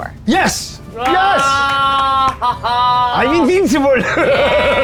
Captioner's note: cheering